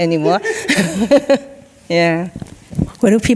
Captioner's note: both chuckling